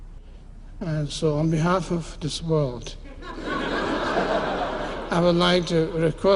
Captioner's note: laughter